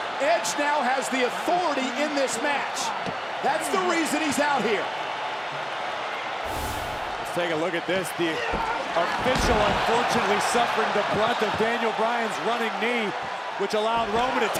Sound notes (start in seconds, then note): 6.4 screen whooshes